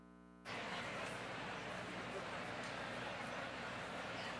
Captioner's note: crowd chattering